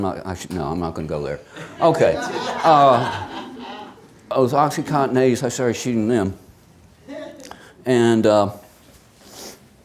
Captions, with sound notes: - Oh, listen, I'm not, I should, no, I'm not gonna go there, okay. (many chuckling) It was OxyContin 80s, I started shooting them.